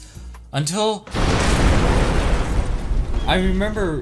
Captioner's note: destruction noises